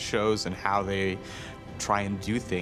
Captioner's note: none